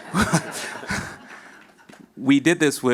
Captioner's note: audience laughs